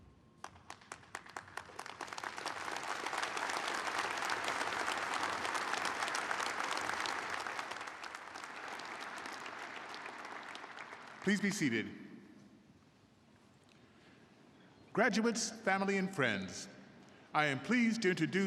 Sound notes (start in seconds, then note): 4.9 applause